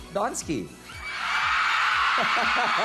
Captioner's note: audience screaming; robi chuckles